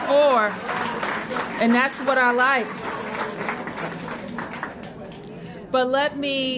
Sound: applause

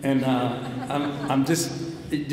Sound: audience laughs

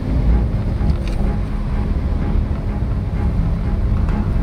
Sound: engine running

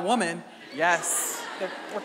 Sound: audience laughing

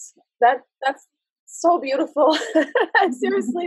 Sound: laughs

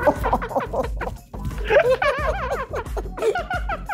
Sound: all laughing

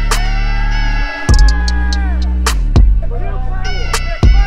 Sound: group cheers; group claps and cheers

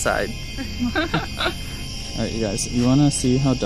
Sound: laughter

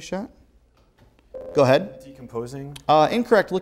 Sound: beeping

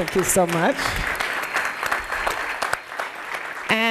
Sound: applause

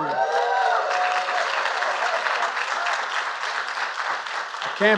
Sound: applause

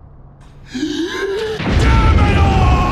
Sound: deep inhaling; Vegeta's voice

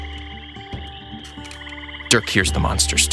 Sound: swamp animals chattering

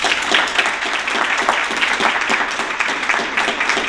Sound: applause

